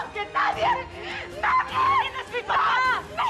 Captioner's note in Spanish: ambas hablan a gritos